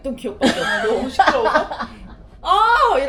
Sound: laugh

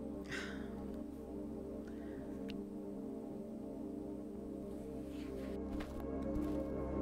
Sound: peaceful music continues; Sandra sighs

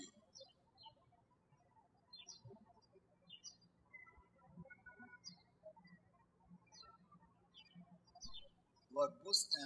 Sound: birds chirping

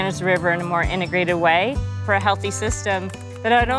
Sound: keyboard clacks

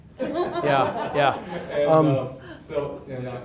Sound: audience laughs

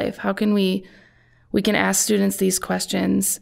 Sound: none

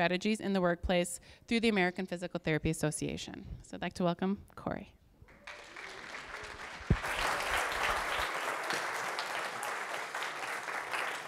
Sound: audience clapping

